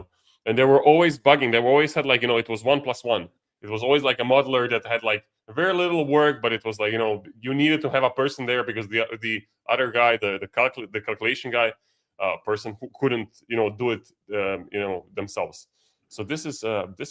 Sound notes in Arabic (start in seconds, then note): none